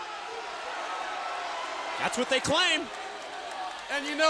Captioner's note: crowd cheering